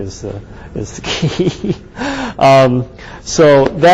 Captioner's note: laughs